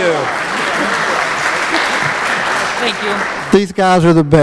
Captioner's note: applause